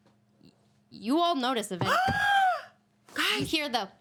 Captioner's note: woman gasps